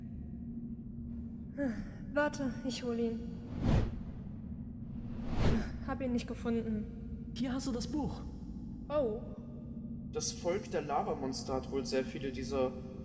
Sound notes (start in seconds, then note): 4.8 woosh